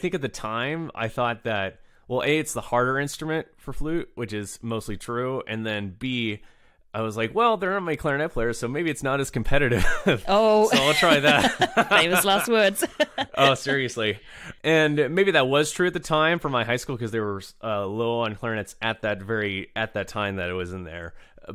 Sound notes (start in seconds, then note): 10.6 laughs